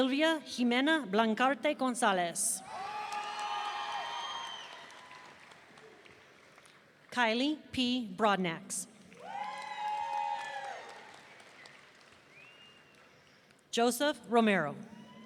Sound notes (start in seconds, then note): 2.7 audience cheering; 9.2 audience cheering